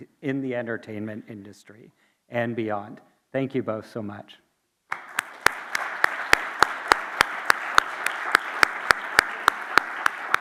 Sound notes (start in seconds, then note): 4.9 audience and applauding